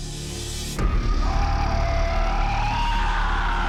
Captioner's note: creature screaming